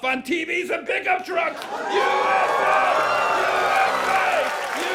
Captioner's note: chanting